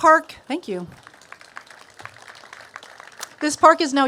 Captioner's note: applause; applause continues